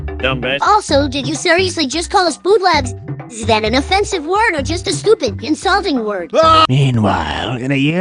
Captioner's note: Engineer Screams shortly